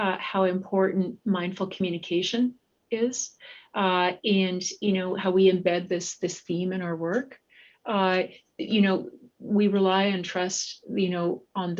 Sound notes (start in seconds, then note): none